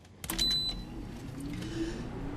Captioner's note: button beeps; a/c rumbles softly